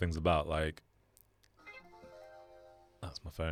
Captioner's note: phone rings